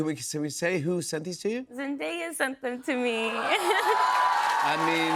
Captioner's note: cheers and applause